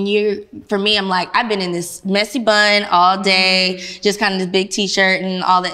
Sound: none

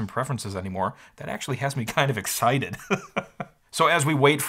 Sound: chuckles

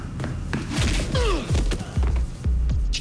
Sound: grunts

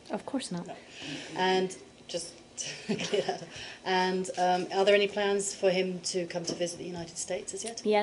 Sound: laughter

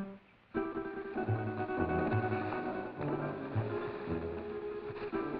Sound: brush rustling

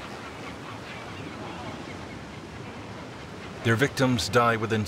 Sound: waves crash

